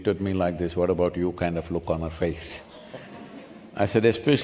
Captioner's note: few laugh